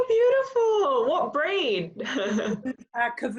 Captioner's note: chuckles